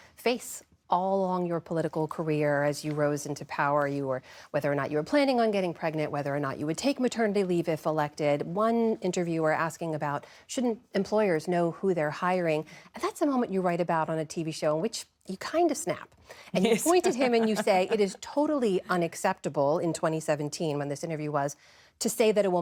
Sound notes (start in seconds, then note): 16.6 laughter